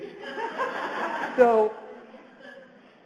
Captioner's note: audience laughs